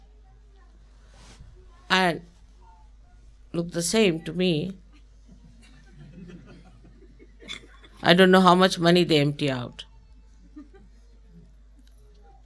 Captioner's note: laughter